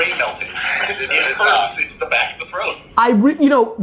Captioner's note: class laughs